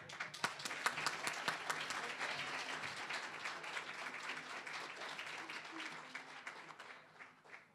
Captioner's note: applause